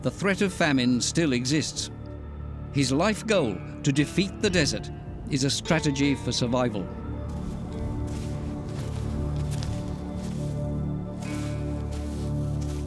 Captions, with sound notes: the threat of famine still exists. His life goal, to defeat the desert, is a strategy for survival. [heavy footfalls] [melancholic string melody]